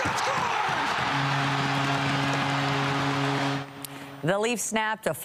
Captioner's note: applause